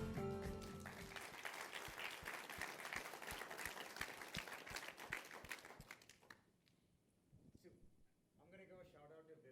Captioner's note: applause